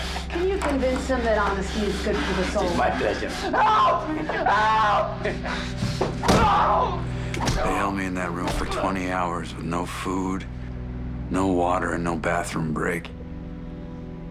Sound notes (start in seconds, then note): 5.8 body thuds; 6.5 Dennis yelping